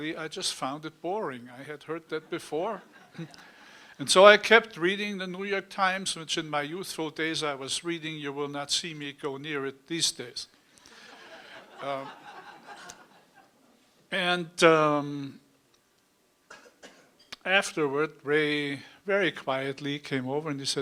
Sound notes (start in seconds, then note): 11.0 laughter